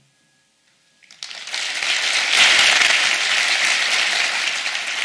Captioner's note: audience applauds